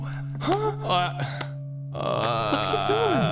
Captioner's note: clapping